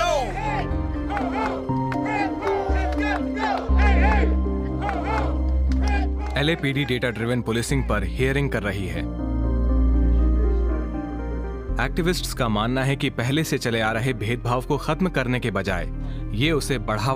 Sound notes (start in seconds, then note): 2.0 protestors chanting